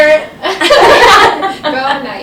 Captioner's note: laughter